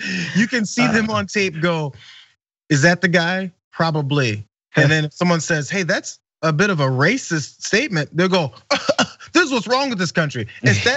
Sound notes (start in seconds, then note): 0.0 laugh; 8.7 cough